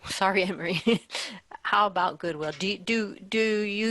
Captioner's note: laughs